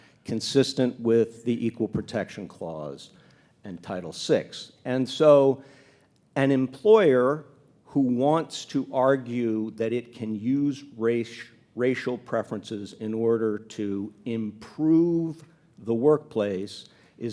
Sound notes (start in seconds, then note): none